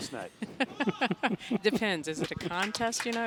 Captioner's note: laughing